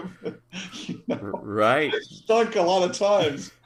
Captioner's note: laugh